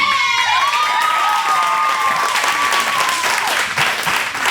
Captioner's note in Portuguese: Gritos